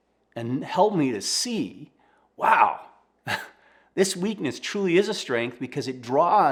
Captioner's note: chuckles